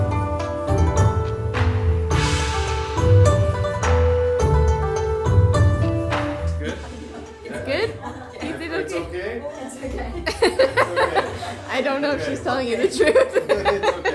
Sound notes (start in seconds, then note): 6.7 laughing; 12.8 laughing